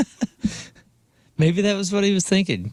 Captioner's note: laughing